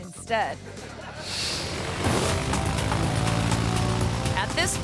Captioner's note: audience laughing; airplane roaring